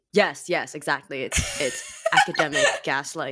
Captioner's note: laughs